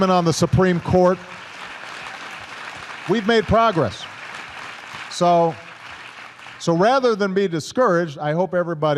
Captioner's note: applause